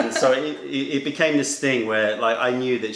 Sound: laughter

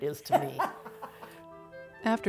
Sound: laughing

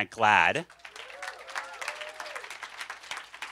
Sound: cheers and applause

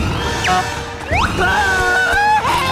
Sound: screaming

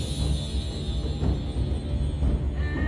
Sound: none

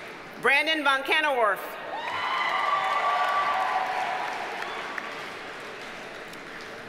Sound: audience cheers and applauds

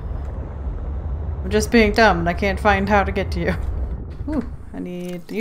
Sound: laughs

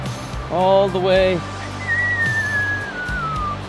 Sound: whistles

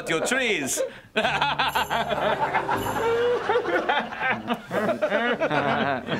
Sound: laughing

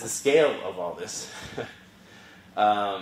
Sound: laugh

